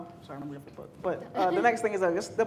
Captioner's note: chuckles